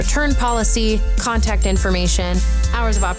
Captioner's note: bell dinging; bell dinging